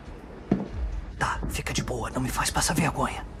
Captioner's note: whispering